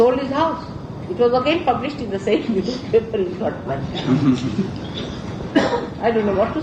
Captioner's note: laughing